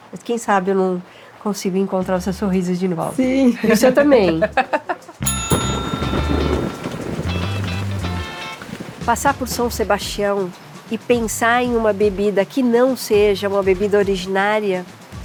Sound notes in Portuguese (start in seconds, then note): 3.4 risos; 5.9 trovão